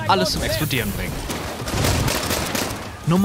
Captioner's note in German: Mehrfache Schüsse